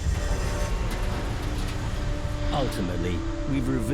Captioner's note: tense dramatic music; trash clattering